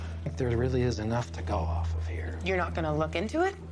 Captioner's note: sighs